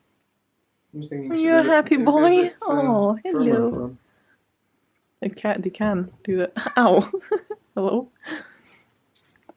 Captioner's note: laughs